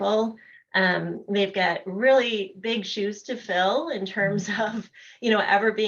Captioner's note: laughter